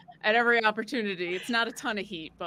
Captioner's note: laughing